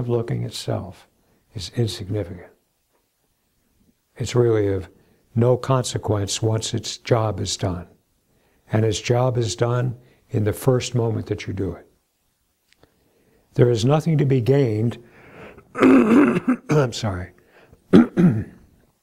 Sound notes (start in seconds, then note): 15.7 coughing